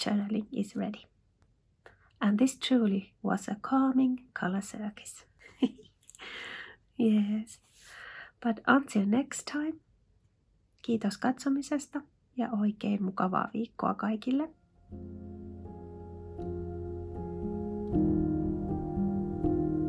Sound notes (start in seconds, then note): 14.1 in Finnish